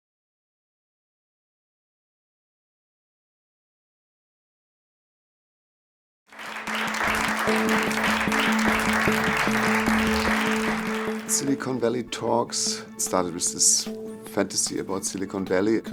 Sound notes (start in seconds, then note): 2.5 applause